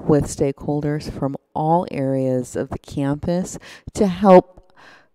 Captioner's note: none